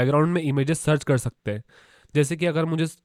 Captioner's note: exhales softly